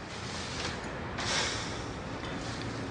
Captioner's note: sighs